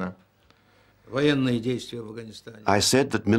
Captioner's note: speaking Russian